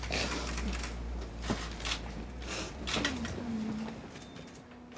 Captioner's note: sniffles